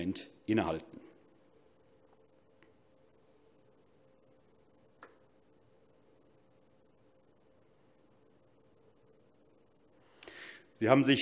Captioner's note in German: Schweigeminute